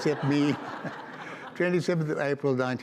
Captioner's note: audience laughs